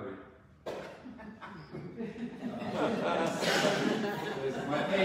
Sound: audience chuckles

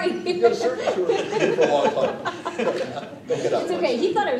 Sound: laughter

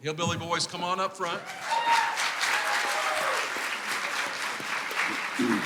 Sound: clapping and cheering

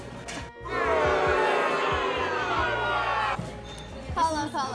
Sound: crowd Booing

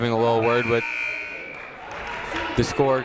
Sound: buzzer ringing

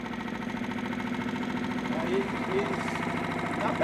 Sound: boat engine idling

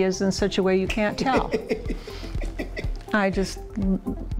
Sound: host laughing

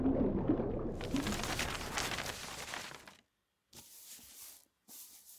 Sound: papers rustling

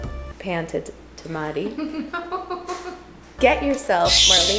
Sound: laughs

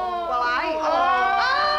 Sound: prisoners groan

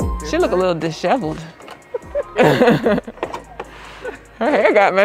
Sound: ladies laughing

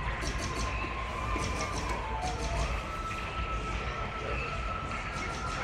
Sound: lazer gun shooting

